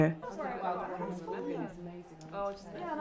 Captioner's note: women talking luodly